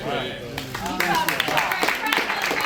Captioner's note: applause